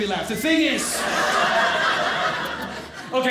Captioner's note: audience laughing